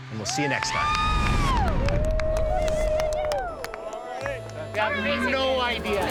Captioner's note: crowd cheering